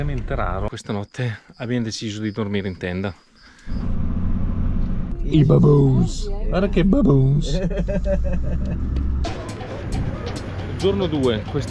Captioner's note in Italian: risate